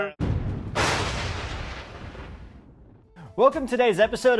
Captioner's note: lightning crackles